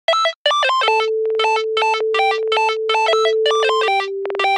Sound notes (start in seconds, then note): 0.8 beeping